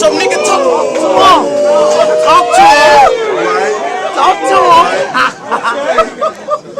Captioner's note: crowd Reation